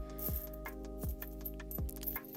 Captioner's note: coins jangling